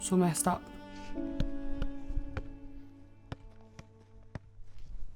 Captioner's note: ball bouncing